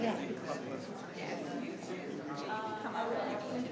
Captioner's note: people chattering